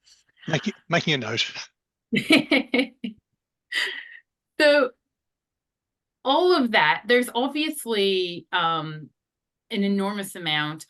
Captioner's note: laughs